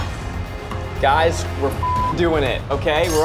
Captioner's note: dramatic music; beep